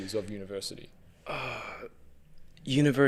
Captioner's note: sighs